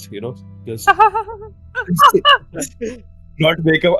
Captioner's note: hysterical laughing